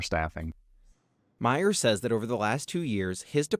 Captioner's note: voice-over